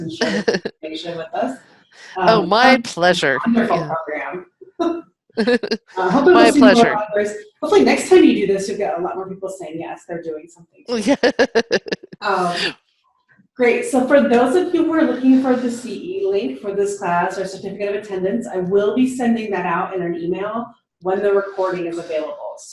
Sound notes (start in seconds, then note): 0.1 chuckling; 5.4 chuckling; 10.9 laughing